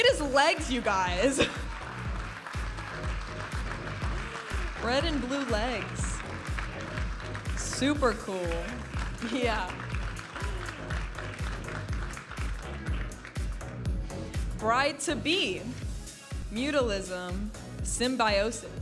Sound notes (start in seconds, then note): 2.5 audience applauding and cheering; 10.8 audience applauding and cheering; 12.4 vibrant music